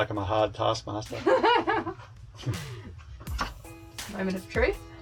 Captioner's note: laughs